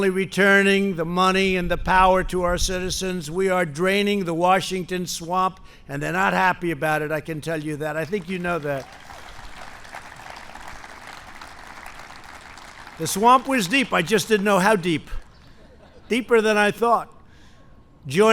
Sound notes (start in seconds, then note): 10.8 applause; 15.3 laughter